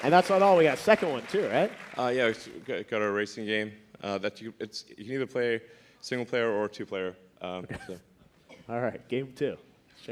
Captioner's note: applause